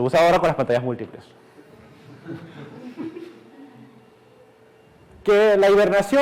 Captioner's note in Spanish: Clase ríe